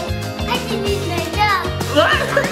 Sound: laughing

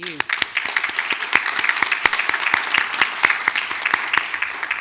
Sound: audience applauding

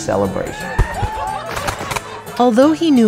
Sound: celebrating

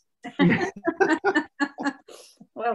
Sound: laughter

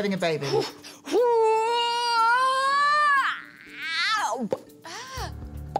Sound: popping; wailing in pain; popping

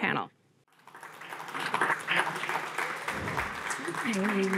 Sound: audience applauds

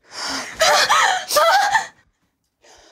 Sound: Laura screams in pain

